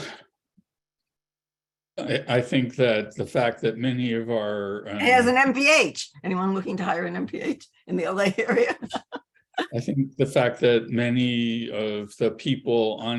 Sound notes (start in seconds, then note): 8.5 laughs